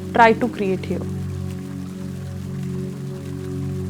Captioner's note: water splashing in the pool; ambient music